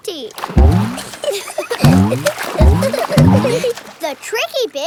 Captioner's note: giggling